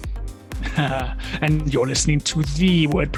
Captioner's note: laughs